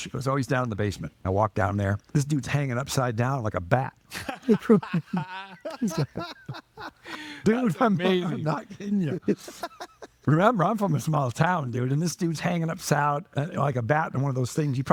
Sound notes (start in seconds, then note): 4.1 lauging; 9.8 laughing